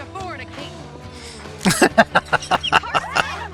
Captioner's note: laughing